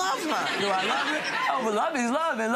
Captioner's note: crowd laughing